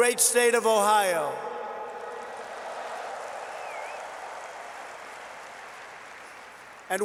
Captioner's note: applause